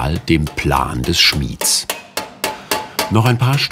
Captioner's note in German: Hämmern